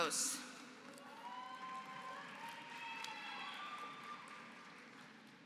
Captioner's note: applause